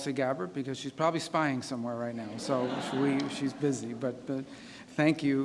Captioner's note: laughter